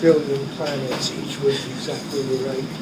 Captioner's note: laughing